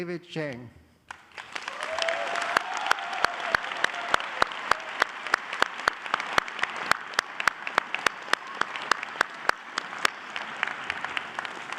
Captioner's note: applause